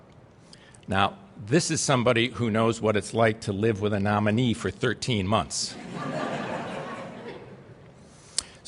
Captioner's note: laughter